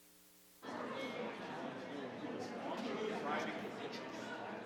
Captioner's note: attendees chattering